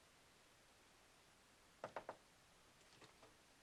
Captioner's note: knocking